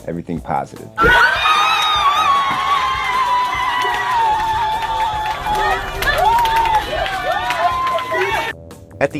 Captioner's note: cheering/screaming